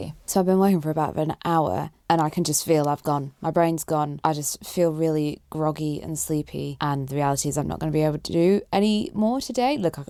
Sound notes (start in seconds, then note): none